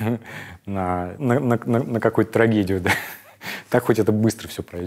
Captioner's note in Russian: смеется